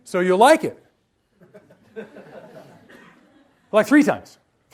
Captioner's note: quiet laughter